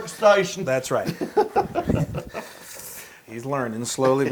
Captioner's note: laugh